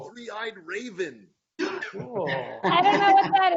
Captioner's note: laughing